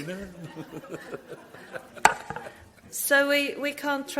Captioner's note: all laugh